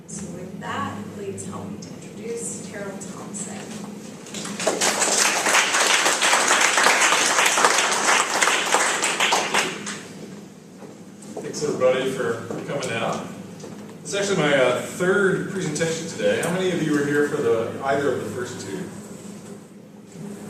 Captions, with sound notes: So with that, please help me to introduce Terrill Thompson. >> [APPLAUSE]. >> Thanks everybody for coming out. This is actually my, third presentation today. How many of you were here for the first two?